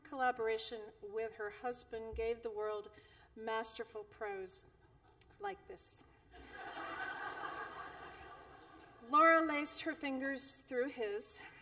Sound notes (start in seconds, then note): 6.3 laughter